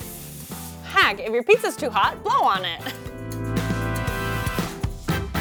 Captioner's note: chuckles; upbeat music